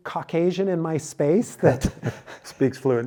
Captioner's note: both laughing